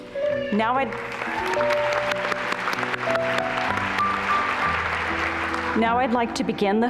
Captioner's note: applause